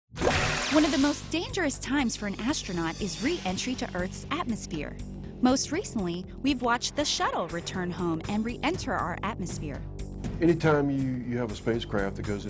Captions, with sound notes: [ Swooshing Sound ] One of the most dangerous times for an astronaut is re-entry to earth's atmosphere. Most recently we've watched the shuttle return home, and re-enter our atmosphere. Any time you -- you have a spacecraft that goes